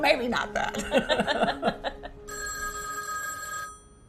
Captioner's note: phone ringing